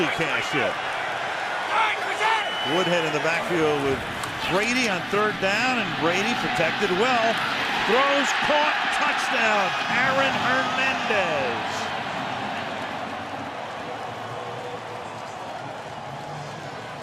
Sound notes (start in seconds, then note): 11.5 cheering